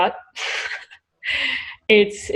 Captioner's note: laughs